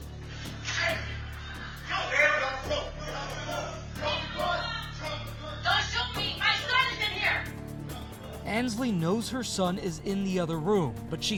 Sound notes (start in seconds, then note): 1.5 yelling and shouting